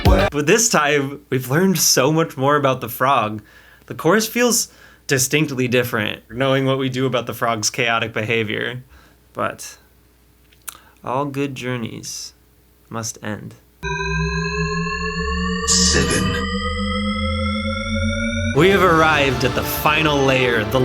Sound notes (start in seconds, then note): 13.8 shepard tone; 18.5 triumphant music